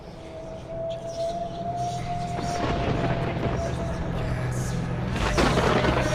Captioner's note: thunder cracking